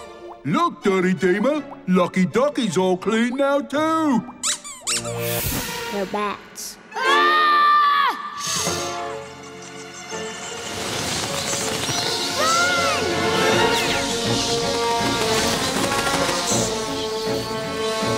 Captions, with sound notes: Look, dirty Deema, Lucky Ducky's all clean now, too! [squeaking] They're bats. [screaming] Shhh! [squeaking] Run!